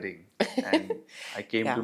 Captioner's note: laugh